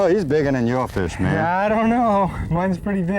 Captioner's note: none